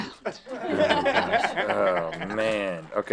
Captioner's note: laughing